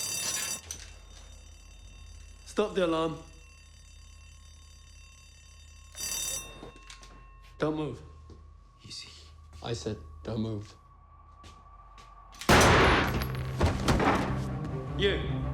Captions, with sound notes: Stop the alarm. Don't move. - Easy. - I said don't move. (gun fires) (body clunks) You!